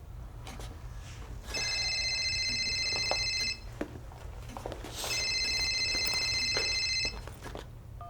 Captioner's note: phone ringing